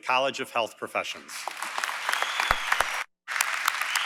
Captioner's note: applause & Cheering